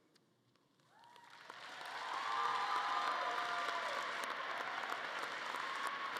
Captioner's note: audience cheering and clapping